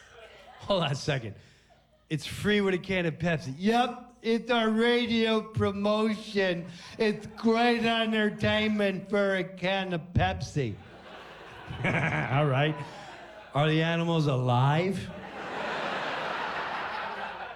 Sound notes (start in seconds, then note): 10.8 laughs